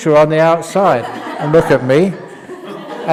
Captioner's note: laughter